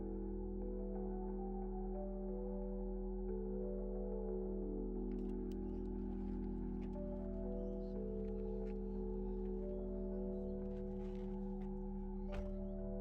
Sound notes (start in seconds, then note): 7.4 birds chirping; 10.2 somber music